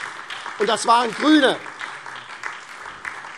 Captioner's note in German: Beifall SPD